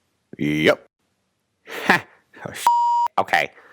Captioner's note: beep